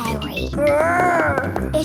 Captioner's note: growls